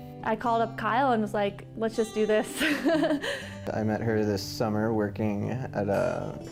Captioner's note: laughing